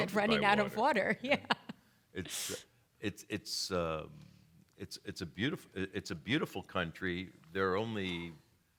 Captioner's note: laughing